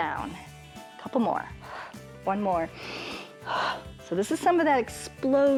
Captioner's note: inhales and exhales